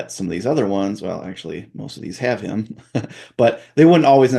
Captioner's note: chuckles